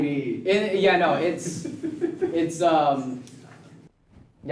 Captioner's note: laughs in the background